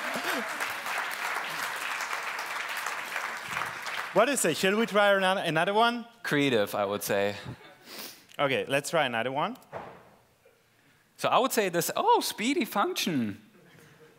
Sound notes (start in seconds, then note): 0.0 applause